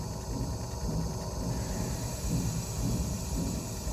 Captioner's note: fan whirring